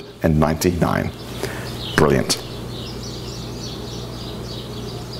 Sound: birds chirping

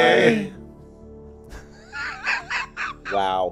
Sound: laughing

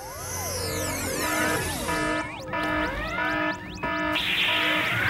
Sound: alarm!

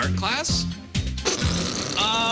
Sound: farting noise

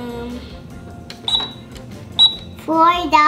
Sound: cash register beeping

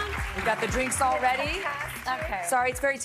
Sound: applause

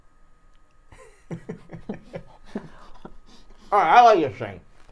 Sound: laughs

